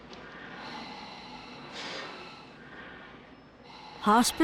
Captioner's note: machines hissing